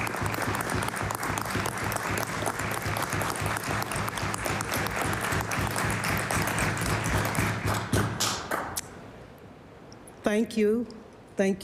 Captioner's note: applause